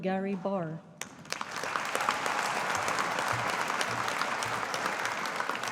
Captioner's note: audience applauding